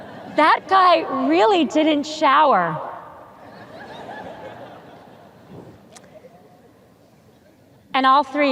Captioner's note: audience chuckles